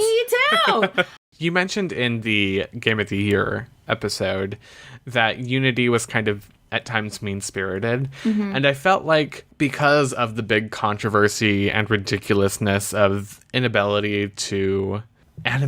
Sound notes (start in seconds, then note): 0.4 laughs